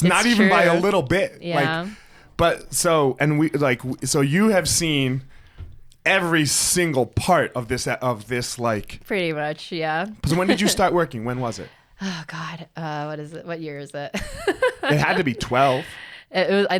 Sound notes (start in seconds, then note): 14.2 laughs